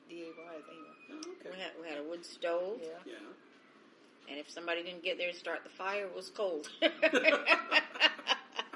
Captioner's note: laughs